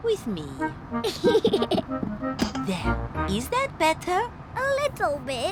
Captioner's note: giggles